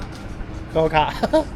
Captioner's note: Yunnan dialect